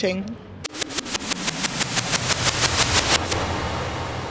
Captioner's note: robotic whooshing